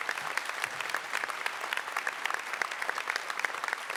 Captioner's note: applause